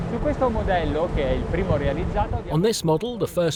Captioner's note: speaks Italian